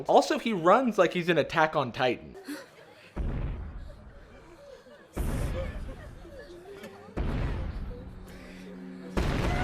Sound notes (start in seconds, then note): 3.2 loud distant stomps